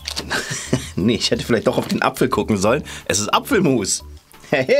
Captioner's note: laughing